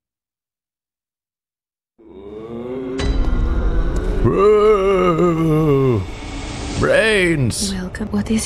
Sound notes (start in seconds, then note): 4.1 growling